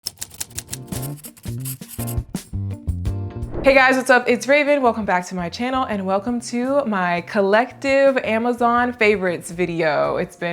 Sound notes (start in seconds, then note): 0.0 letters typing; 0.9 calm music